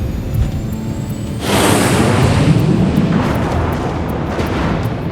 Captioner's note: plane engine roars